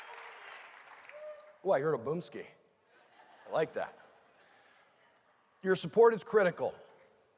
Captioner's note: cheering and applause